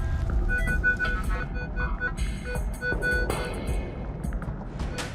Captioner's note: beeping